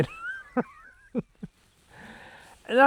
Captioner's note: laughs